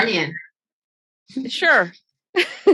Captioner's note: laughing